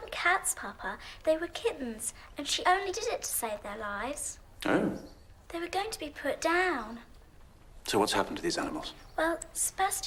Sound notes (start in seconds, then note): none